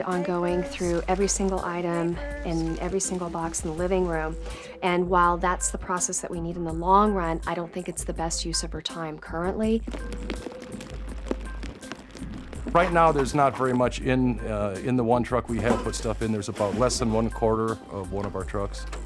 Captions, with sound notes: through every single item in every single box in the living room. And while that's the process that we need in the long run, I don't think it's the best use of her time currently. [rain falling] Right now, there's not very much in the one truck we have put stuff in. There's about less than 1/4 of one of our trucks.